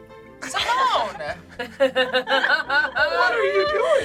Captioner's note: group laughs